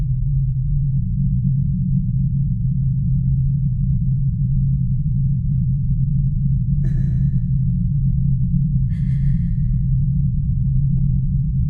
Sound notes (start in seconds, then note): 7.3 sobbing